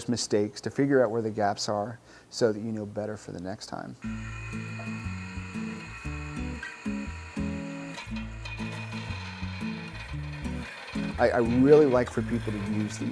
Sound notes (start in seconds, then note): 7.8 machine whirring